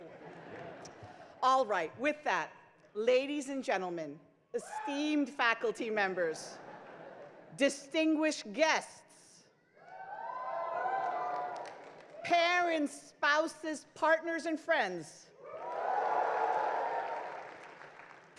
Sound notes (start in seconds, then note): 0.0 crowd laughs; 9.7 crowd cheers; 12.2 crowd applauds; 15.4 crowd cheers; 15.4 crowd applauds